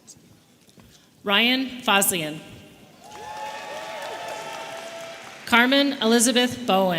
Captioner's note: audience cheering